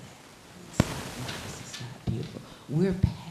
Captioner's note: static hissing